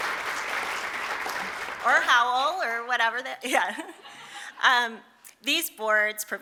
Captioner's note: laughter